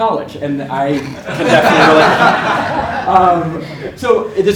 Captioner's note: laugh